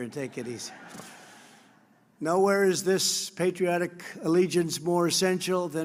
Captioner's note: laughter